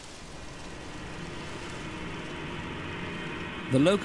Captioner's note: locusts buzzing; suspenseful music